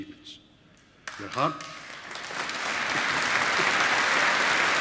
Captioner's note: applause